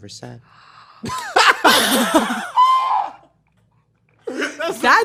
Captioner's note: gasps; laughs; laughs